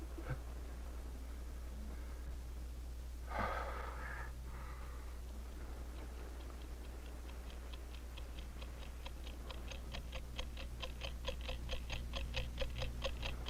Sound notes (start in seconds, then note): 3.3 Tom sighing; 5.5 clock ticking rapidly